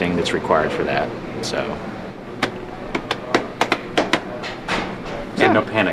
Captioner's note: clapping his cheeks